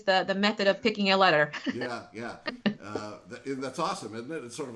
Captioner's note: laughing